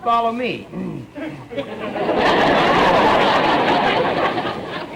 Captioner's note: audience laughter